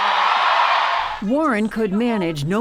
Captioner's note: cheering and applause